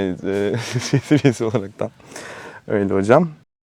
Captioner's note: laughs